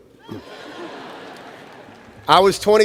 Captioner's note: laughter